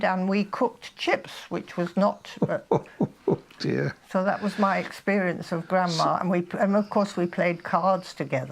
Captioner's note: laughing